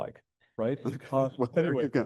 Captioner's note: chuckles